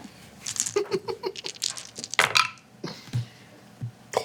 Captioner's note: laughing